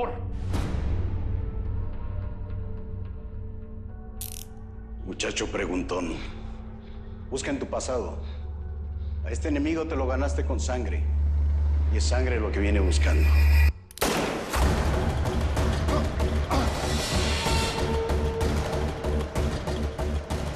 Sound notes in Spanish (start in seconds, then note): 14.0 Disparo